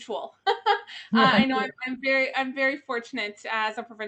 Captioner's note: laughs